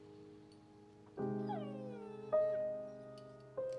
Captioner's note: angus whining